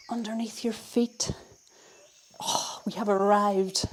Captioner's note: faint bird sounds